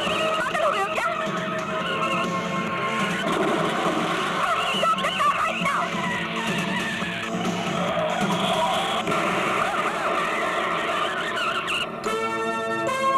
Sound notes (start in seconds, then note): 6.3 tires squealing; 8.0 car rammed and brakes squeal